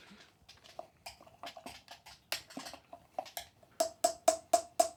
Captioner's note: spoon clacking